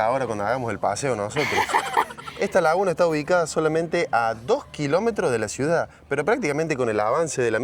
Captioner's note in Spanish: risas